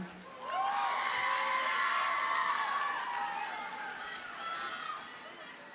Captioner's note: audience cheers and applauds